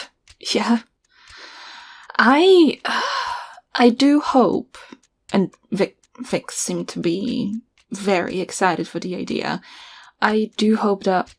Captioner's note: scoffs